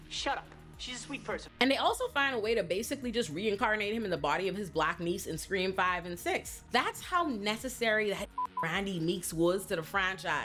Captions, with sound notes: Shut up. She's a sweet person. And they also find a way to basically just reincarnate him in the body of his black niece in Scream 5 and 6. That's how necessary that (beep) Randy Meeks was to the franchise.